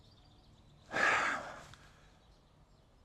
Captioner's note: sigh